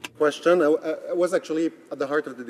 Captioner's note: speaking French